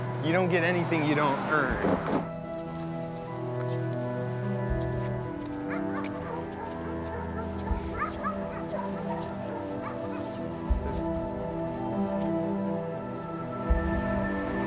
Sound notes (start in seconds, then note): 5.3 dogs barking